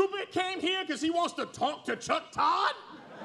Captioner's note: laughter